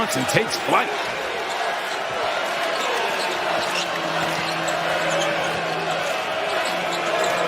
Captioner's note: cheers and applause